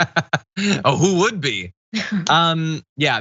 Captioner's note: laugh